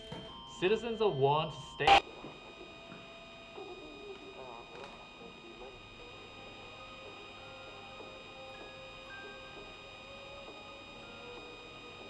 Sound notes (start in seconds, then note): 1.8 radio abruptly cuts off, replaced by static